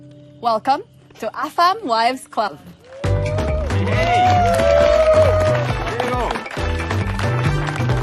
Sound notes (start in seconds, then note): 2.8 cheering, clapping; 3.0 upbeat music playing; 6.8 upbeat music continues